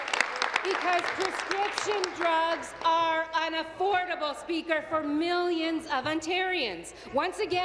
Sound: applause

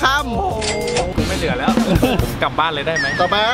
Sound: laughs

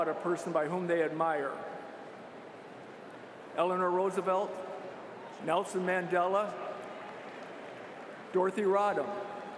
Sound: applause

